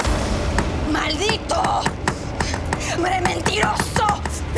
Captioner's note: speaking Spanish